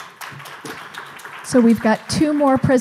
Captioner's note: clapping